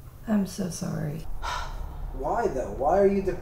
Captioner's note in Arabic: تتنهد